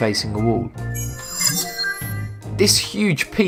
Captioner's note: sharp chiming